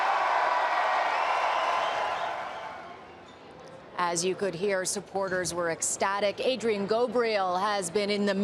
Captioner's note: applause and cheering